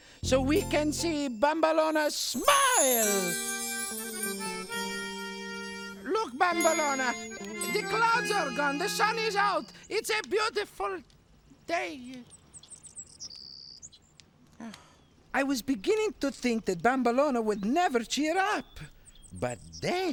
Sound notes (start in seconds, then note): 2.3 gentle music; 12.0 birds chirping